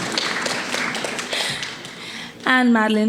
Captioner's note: panelists laughing; attendees applauding